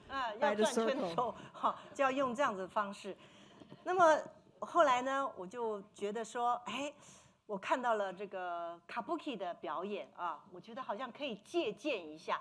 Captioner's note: speaking Mandarin